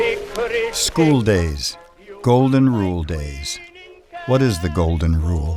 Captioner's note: voiceover